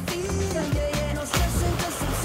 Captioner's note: splash